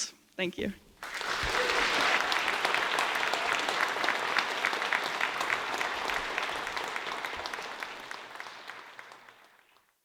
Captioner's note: applause